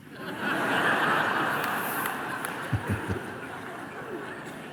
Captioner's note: laughter